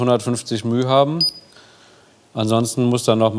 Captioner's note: beeping